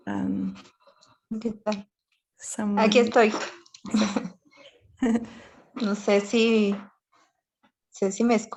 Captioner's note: voice in the background speaking Spanish trying to connect